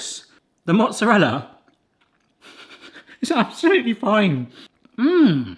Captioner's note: laughs